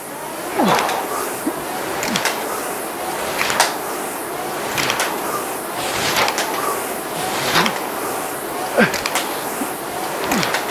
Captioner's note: grunting